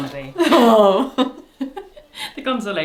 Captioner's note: both laugh